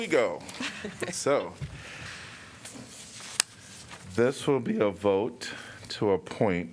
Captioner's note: laughter